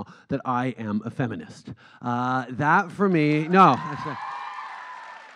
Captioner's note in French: Acclamations